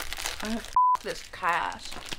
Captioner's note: beeping